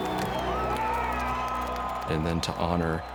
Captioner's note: crowd cheering